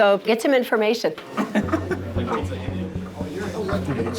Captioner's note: chuckling